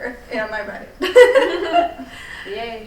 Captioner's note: all laughing